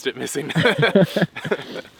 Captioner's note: both laugh